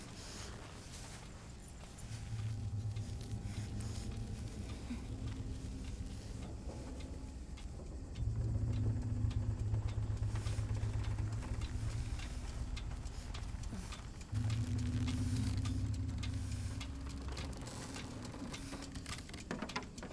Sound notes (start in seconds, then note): 0.0 heavy breathing; 5.3 clock ticking